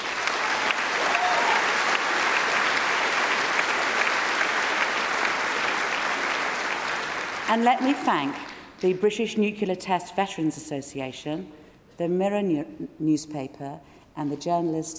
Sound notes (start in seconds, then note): 7.4 cheering & Applause